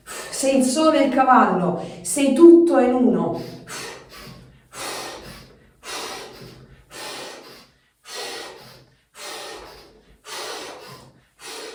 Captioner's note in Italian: sbuffare